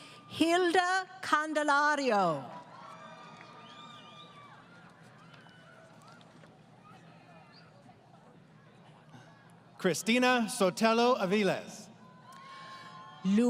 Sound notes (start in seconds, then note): 2.5 crowd Cheering